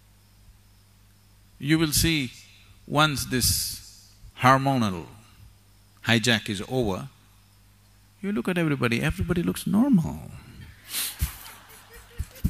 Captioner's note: laughter; 笑聲